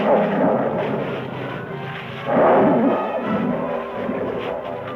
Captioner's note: cats growling